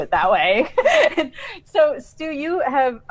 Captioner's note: laughs